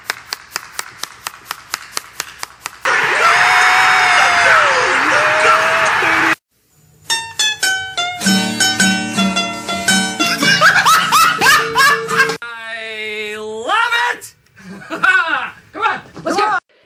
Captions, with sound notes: [Cheering strongly intensifies] [Laughs] I love it! Come on, let's go